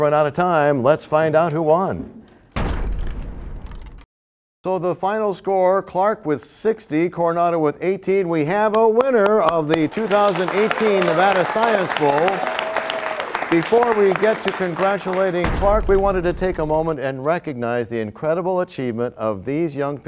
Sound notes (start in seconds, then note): 2.6 crashing sound; 12.9 applause